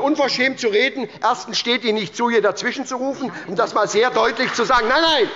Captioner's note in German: Beifall bei der SPD und der LINKEN